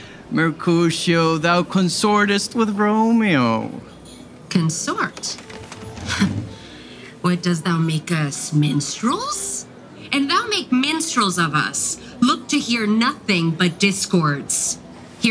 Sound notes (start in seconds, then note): 4.8 chair squeaking